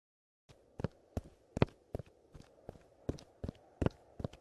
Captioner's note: footstep patter